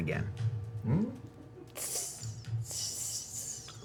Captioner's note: weak sizzling